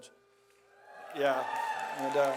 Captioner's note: audience cheers